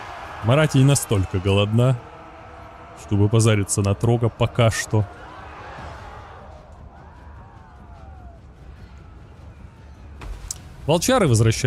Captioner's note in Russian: крик